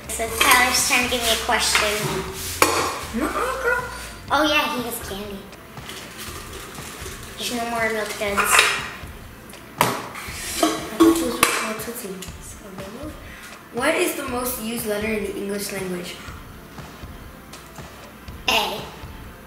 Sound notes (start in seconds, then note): none